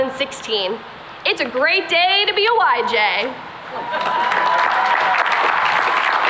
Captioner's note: cheering and applause